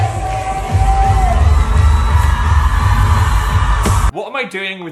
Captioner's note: crowd cheering